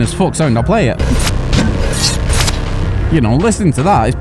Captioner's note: electronic noise